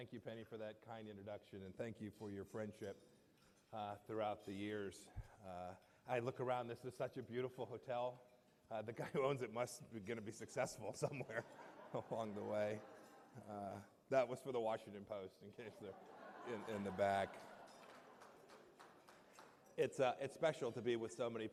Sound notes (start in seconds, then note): 13.3 laughter; 18.9 laughter